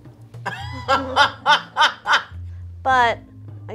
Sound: laughs

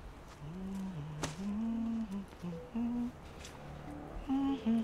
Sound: Leanne continues humming

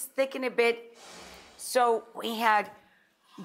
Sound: air whooshes

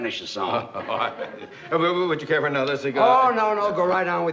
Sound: laughs

